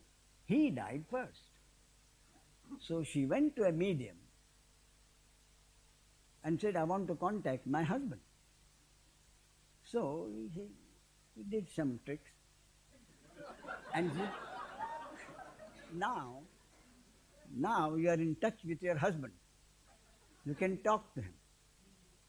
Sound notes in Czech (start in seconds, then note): 13.0 smích